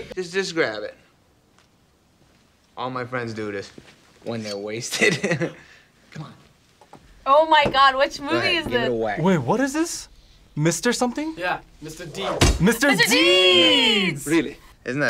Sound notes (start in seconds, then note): 4.9 laughs